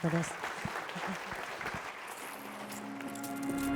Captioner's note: applause